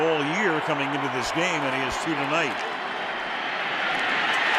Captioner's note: cheering